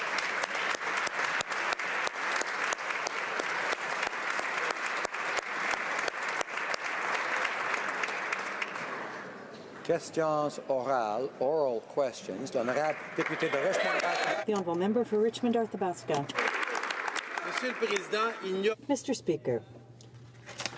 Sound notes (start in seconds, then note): 4.9 applause